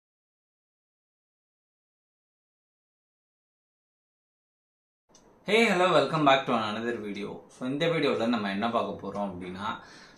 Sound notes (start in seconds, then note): 0.0 silent